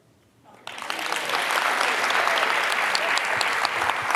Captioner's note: audience applauding